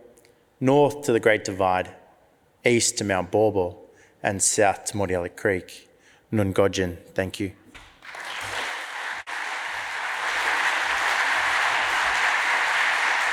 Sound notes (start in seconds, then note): 8.0 audience applauds